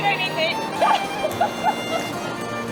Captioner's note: laughing